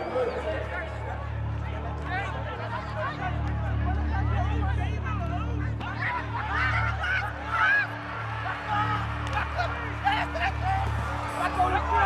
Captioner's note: shouting in afrikaans